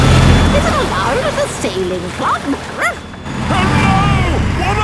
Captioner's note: barks